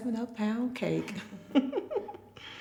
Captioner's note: laughing